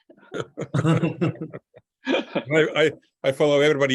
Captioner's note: laughing